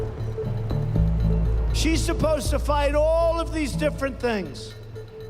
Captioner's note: plane engine roaring